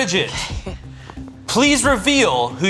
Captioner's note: laughing